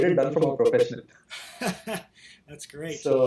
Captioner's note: laughter